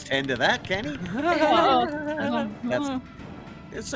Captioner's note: laughs